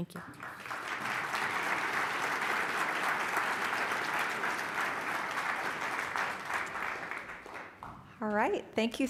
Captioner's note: applause